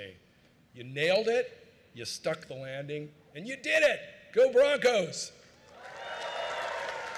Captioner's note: cheering